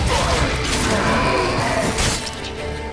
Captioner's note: wraith howls